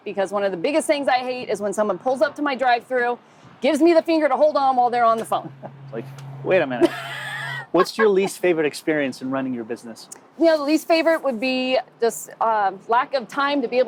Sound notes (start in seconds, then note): 6.8 laughing